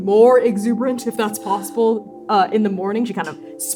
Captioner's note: long-suffering sigh